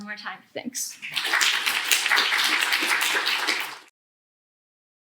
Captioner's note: applause